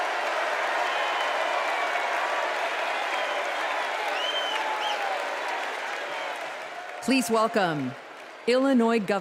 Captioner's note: cheers and applause